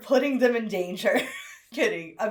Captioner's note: laughs